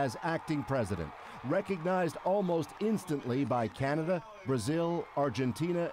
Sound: speaking Alternate Language; cheering

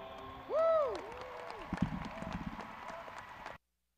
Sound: graduates cheering

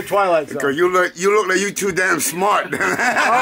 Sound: laughs

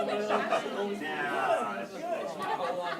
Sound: indistinct chatter; laughter

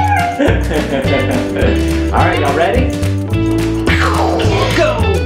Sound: chuckles

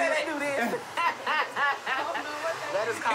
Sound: laughter

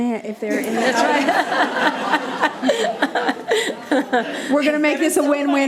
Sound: people laughing

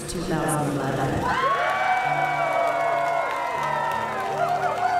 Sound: cheering

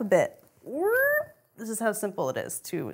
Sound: lifting noise

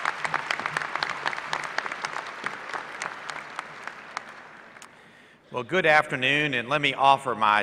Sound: applause

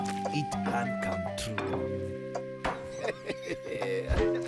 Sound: laughing

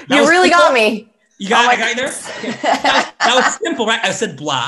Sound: laughs

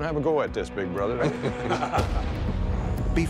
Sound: laughter

